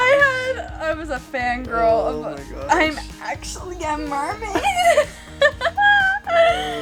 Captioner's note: laughs